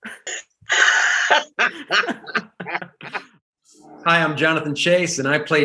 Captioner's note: group laughing